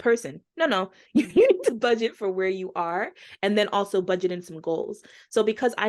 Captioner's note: chuckling